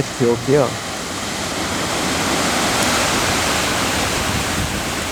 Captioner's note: waves crashing on the shore